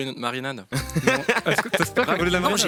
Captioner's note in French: rires